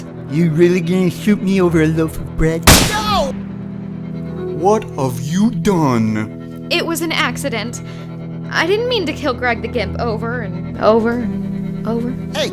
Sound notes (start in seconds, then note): 2.6 shot/scream